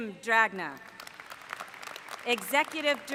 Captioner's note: applause